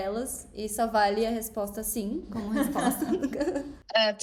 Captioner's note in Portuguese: risos